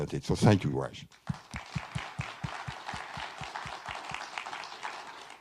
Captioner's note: everyone applauding